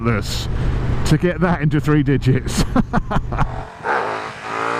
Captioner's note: laughs